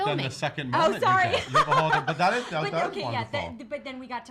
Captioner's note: laughs